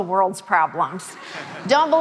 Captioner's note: audience laughing